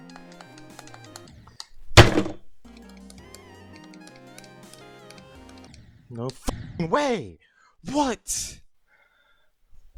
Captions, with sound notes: (desk slam 2) No F*CKING WAY What?